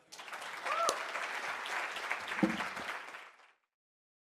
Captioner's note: audience applause